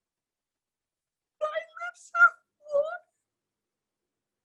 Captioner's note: crying